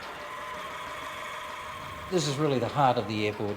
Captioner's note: motor whirring